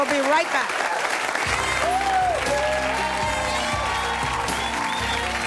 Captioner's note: audience applauds; lighthearted music